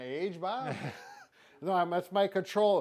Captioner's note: chuckling